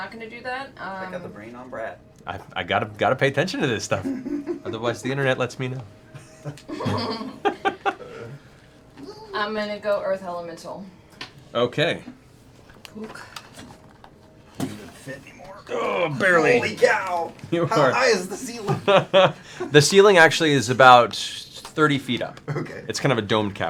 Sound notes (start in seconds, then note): 6.2 laughter; 17.5 laughing